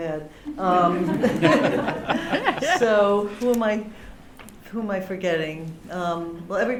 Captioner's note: laughter